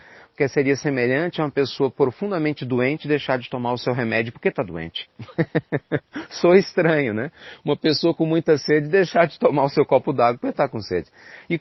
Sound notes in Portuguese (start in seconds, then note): 5.2 risos